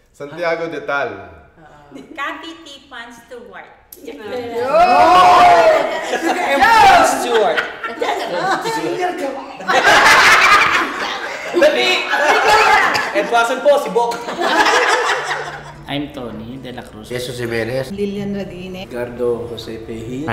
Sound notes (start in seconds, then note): 4.6 cheering; 9.7 laughing; 14.0 laughing